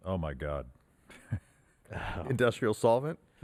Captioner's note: chuckles